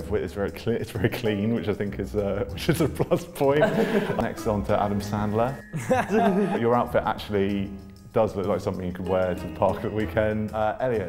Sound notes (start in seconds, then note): 3.5 laughter